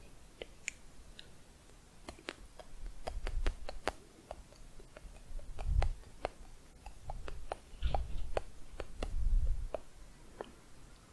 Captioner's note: clicking on lips